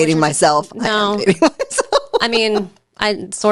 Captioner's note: laughing